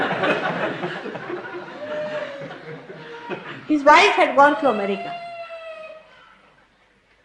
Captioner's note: laughter